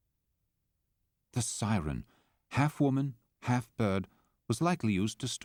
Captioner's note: voiceover